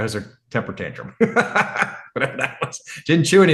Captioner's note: laughs